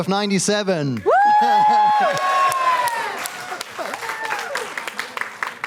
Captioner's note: cheering